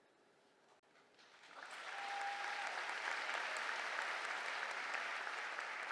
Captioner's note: applause